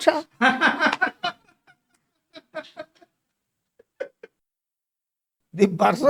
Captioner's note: laughs